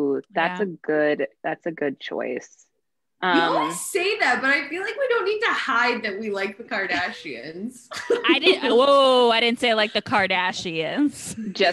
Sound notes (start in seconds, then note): 7.9 all laughs